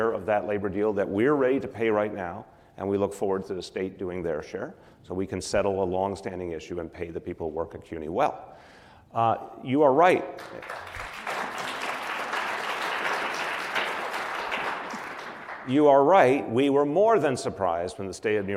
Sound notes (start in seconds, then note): 10.3 applause